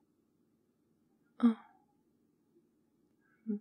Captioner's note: quiet